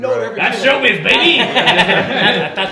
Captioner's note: talking at unison; laughing